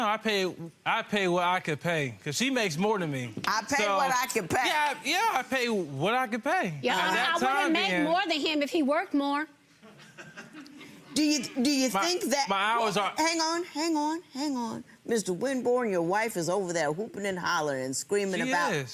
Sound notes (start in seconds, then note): 9.9 audience laughing